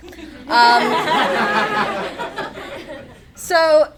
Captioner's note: attendees laugh